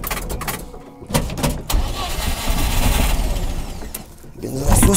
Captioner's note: failing to start the car